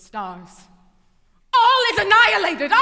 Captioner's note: yelling